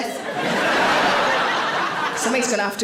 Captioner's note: audience laughing